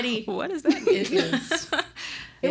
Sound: laughing

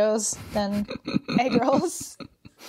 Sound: both laugh

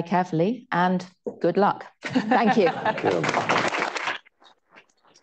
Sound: laughter; applause

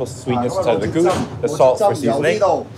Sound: man speaking Cantonese

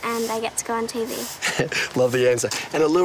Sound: laughs

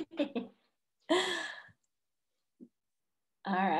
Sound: laughs

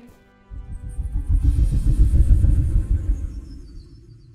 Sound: rapid whooshing

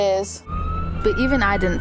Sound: siren blaring

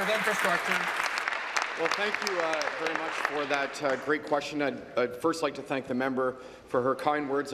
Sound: applause

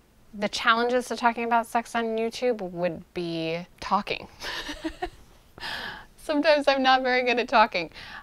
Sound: laughs

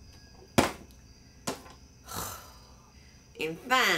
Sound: sighs

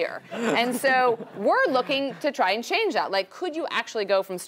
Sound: laugh

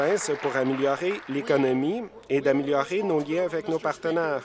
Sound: applause

